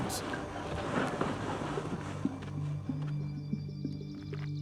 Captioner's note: bear huffing